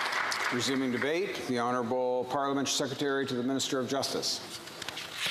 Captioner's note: some applause